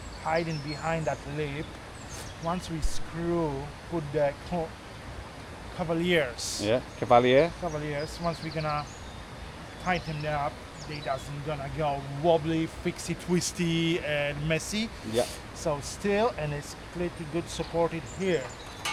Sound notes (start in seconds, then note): none